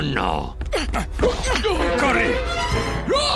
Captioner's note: gasps; grunts; yelling